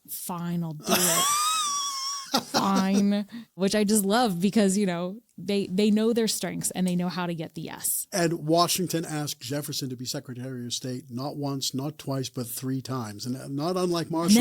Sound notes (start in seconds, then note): 3.5 laughs